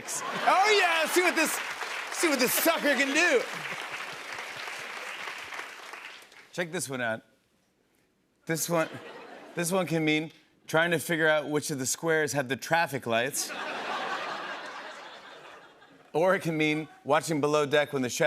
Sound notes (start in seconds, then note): 3.3 applause; 13.4 laughter